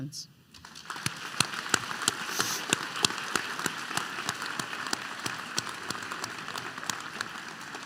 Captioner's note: applause